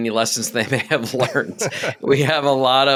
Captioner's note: laughing